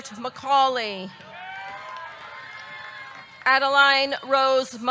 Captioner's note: audience cheering; audience clapping